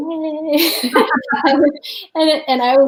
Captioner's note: laughing in unison